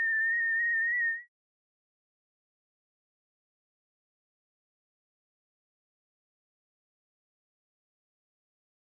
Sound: tone bounces between two frequencies; tone fades out to silence

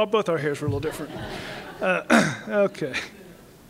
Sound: laughter

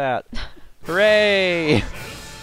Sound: laughs

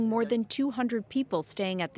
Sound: speaking aboriginal language

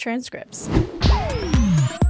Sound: air whooshing; upbeat music

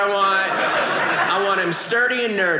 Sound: audience laughing

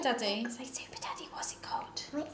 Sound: whispers

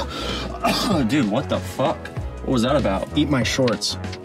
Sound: coughing

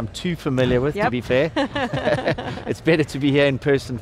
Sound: chuckles

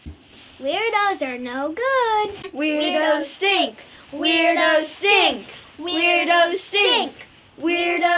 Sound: chanting

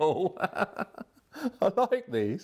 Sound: laughter

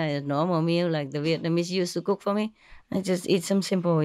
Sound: Vietnamese

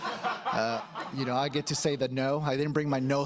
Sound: laughter

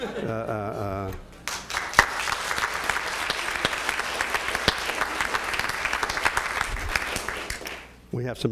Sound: applause

